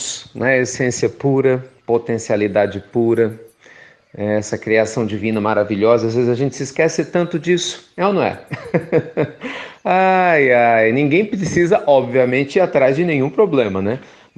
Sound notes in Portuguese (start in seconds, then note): 8.4 Risos